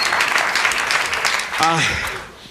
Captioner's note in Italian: applauso